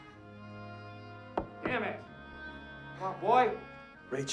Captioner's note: knocking